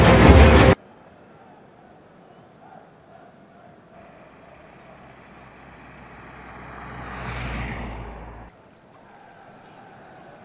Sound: football game playing

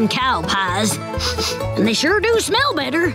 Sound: sniffing

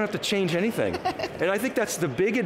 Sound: laughing

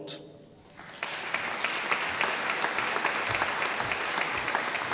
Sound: audience applauding

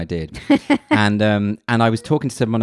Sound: laughs loudly loudly

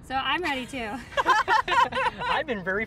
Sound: girls laughing

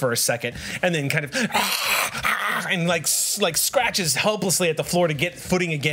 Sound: screams

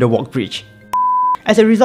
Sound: beep

